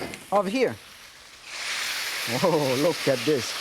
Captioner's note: pouring sizzling beef